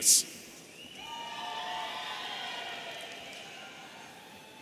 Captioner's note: audience cheering